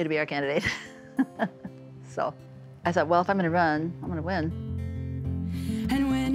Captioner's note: laughs